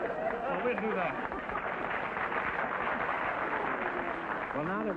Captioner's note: audience laughter; applause